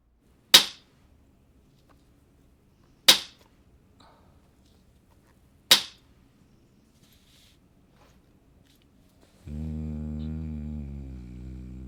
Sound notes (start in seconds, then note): 0.3 elastic snapping; 9.4 humming